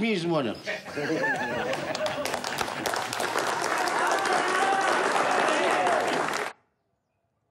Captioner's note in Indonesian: tepuk tangan